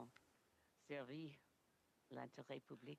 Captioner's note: speaking French